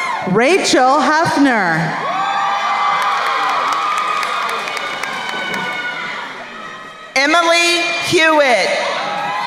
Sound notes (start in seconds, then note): 0.0 crowd cheering; 2.0 crowd cheering and applauding; 9.0 crowd cheering